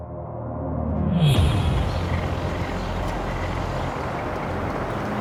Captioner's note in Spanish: Ruido del vehículo